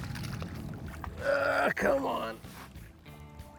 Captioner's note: grunting